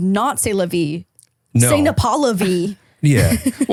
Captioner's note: speaking foreign language